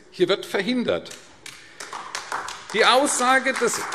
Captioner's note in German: Beifall AfD